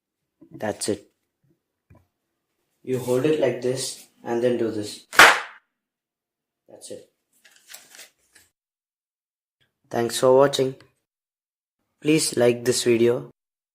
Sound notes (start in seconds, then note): 5.1 extremely loud "pop"